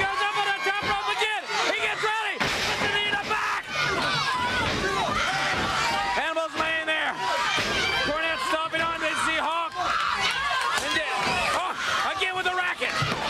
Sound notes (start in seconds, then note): 5.2 crowd chatter